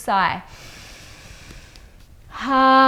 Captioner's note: inhales deeply